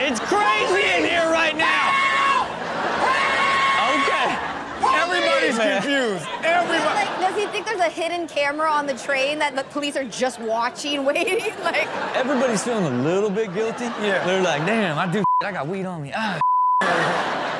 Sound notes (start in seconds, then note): 2.4 audience laughs; 10.8 audience and Chanel laugh; 16.4 beep